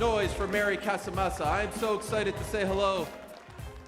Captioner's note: cheers and applause